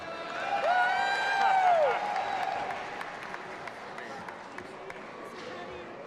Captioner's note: audience applauding and cheering